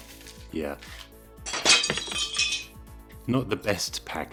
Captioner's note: crashing sound